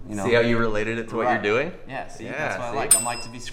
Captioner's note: ding